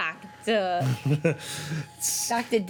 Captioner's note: laughs